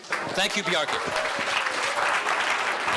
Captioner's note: crowd applauding